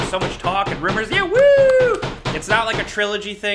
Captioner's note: loud banging